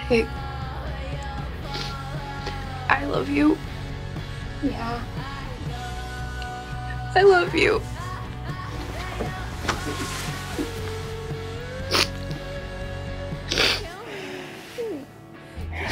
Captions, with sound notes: - Hey, I love you. - Yeah? - I love you. (soft crying)